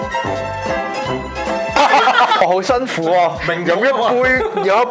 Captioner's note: laughter